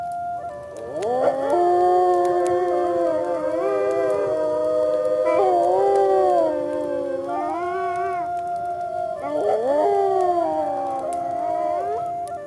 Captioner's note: wolf howls